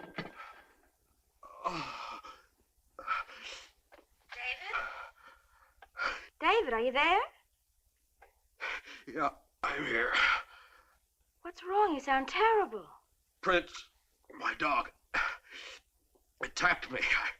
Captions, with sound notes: - David? David, are you there? - (gasps) Yeah, I'm here. - What's wrong? You sound terrible. - Prince, my dog, (groaning) attacked me.